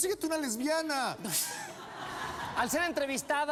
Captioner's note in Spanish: risas